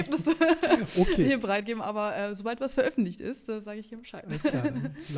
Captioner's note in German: gelächter